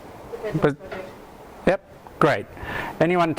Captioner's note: voiceover